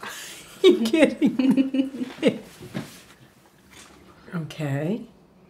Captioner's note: laughing